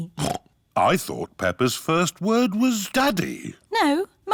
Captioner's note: snorts